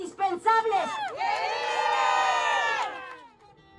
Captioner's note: cheering